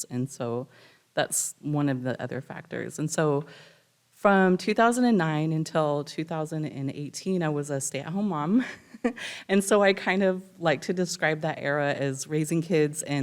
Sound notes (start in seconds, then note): 8.6 chuckles